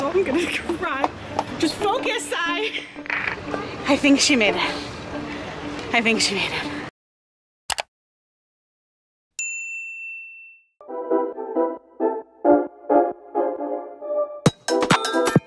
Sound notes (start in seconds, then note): 5.6 panting; 7.8 mouse clicking; 9.4 bell dinging; 10.8 bright upbeat music